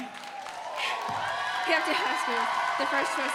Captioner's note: audience applauds; audience cheers